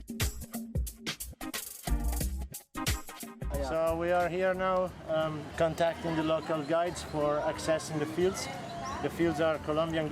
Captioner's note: Spanish spoken